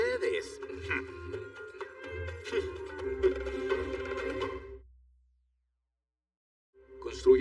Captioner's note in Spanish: Ríe